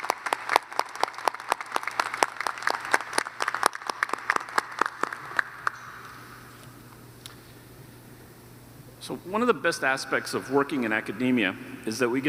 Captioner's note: applause